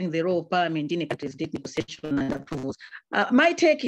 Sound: audio distorts

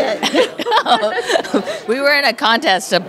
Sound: laughter

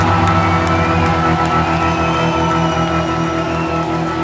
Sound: audience cheering

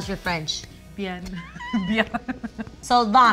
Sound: speaks foreign language

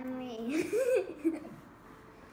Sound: laughs

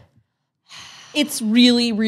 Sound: sighs

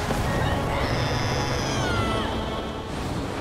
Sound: screaming

